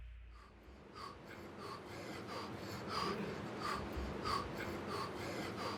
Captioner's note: breathing heavily